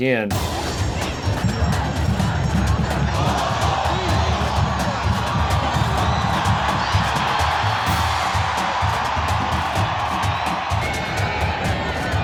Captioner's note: crowd cheering and drums banging